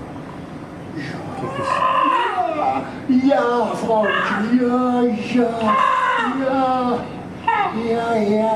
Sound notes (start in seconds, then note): 2.1 chirping